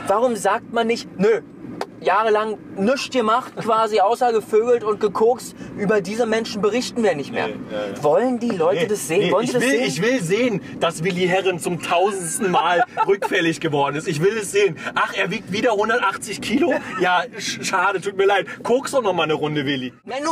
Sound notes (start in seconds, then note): 14.4 laughs